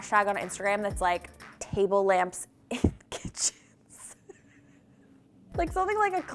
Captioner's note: laughs